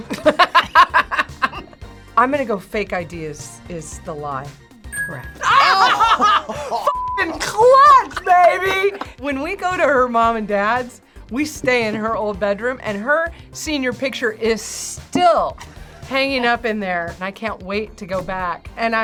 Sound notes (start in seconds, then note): 0.0 both laugh; 5.4 laughs